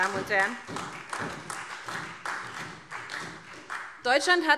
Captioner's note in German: Vereinzelter Beifall SPD